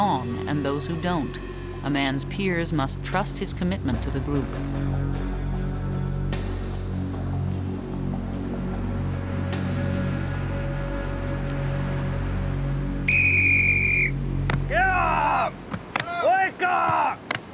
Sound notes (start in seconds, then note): 4.8 ominous music; 13.0 whistle blows